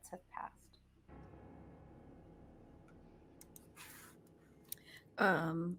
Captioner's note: dramatic sound effects